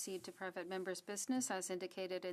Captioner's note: speaking French